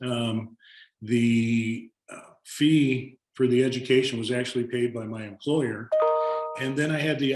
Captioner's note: notification sound